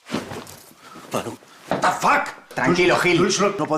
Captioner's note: yelling